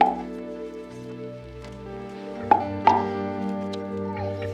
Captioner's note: Bill's mouth popping